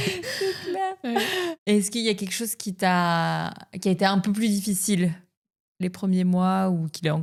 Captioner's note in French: rires